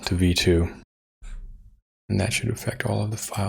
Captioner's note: blank Audio